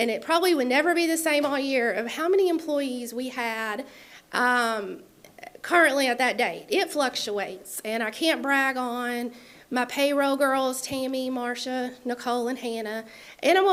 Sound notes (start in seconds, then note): none